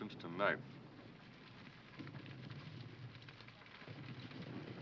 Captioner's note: fire crackling